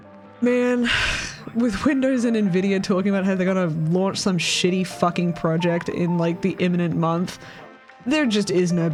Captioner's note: sigh